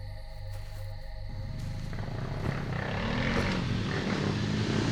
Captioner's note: engine revving